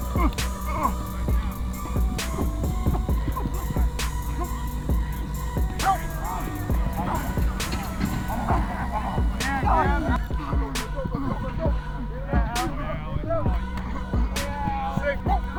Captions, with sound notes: - Hut! [grunting] - Let's go, let's go, let's go! [indistinct chatter]